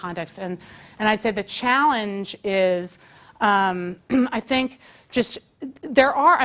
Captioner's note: cough